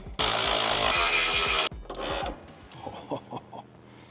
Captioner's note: power tool whizzes; chuckles